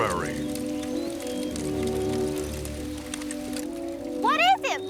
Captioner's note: crackling